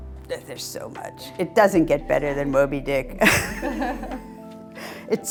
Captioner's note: laughs